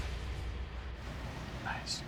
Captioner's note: whispers